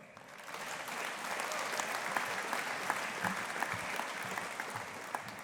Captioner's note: audience applauding